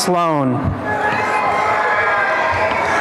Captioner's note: cheering and applause